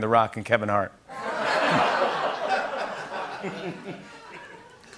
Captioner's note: laughter